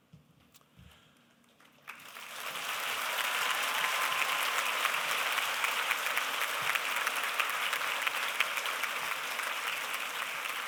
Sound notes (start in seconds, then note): 1.5 applause